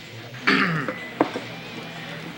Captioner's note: clears throat